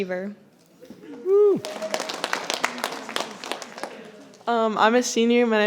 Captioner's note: audience applauding